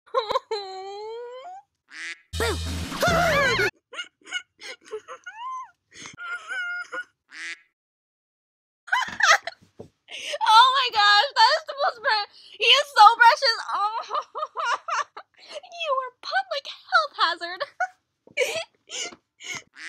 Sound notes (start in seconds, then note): 1.9 quack; 2.9 screams; 3.0 laughs; 7.3 quack; 10.1 gasp; 18.4 laughs; 19.7 quack